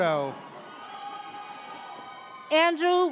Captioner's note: audience cheers